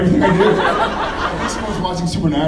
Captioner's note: laughs